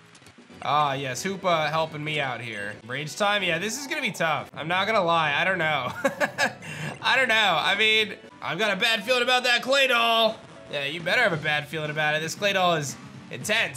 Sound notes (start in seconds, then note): 5.8 laughs